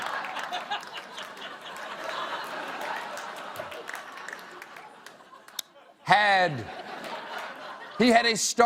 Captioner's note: laughter